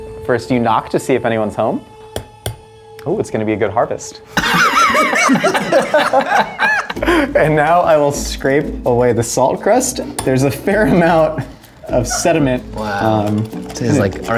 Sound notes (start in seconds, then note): 2.4 spoon knocking; 4.3 all laughing